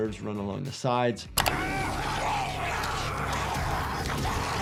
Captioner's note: zombie snarling